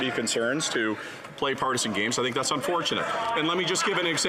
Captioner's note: some Applause